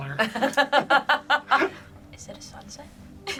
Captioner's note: laughs